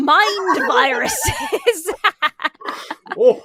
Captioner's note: laugh